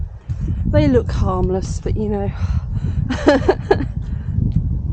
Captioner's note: laughing